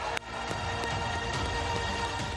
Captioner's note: cheering